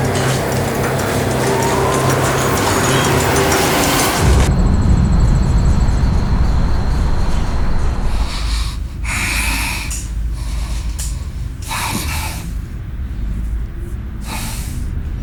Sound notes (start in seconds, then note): 0.1 dramatic music; 9.7 sighing